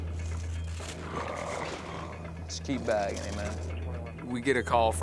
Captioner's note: gurgling